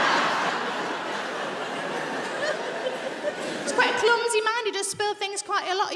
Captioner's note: audience laughing